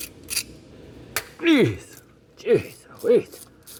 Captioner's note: grunting